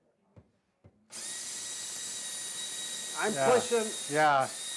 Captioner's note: drill whirring